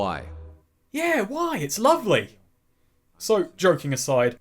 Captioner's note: Sarcastic